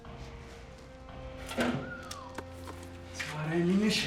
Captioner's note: whistles